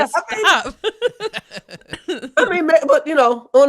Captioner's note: laughing